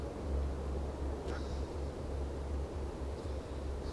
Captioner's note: none